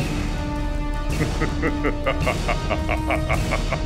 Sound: laughing

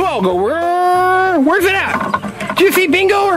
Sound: makes motor noise with mouth

